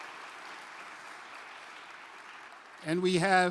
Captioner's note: applause